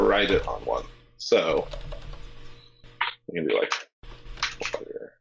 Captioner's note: keyboard keys clanking